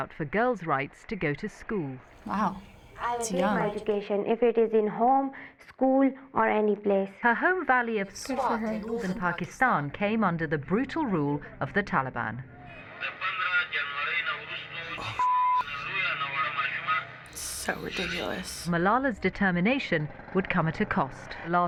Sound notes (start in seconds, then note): 12.9 man speaking foreign language